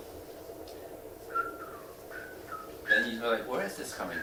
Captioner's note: whistling